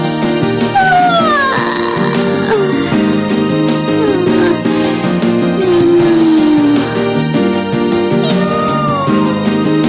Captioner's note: yawning